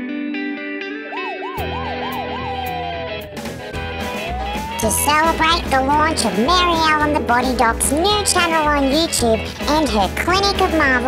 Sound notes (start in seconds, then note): 1.0 siren